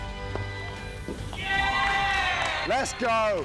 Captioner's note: cheers